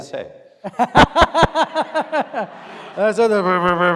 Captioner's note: audience laughing